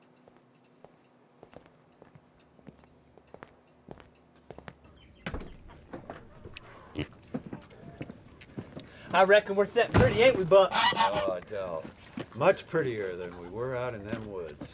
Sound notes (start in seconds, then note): 1.4 footfalls clacking; 4.8 birds chirping; 5.2 door latch clunks; 6.4 Otis oinks; 6.8 heavy footfalls clunking; 10.1 goose squawks